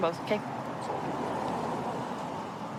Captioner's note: vehicles driving